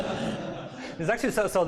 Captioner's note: laughter